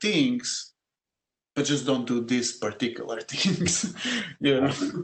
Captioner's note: laugh